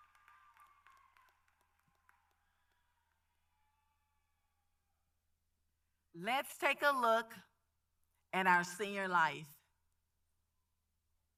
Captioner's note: applause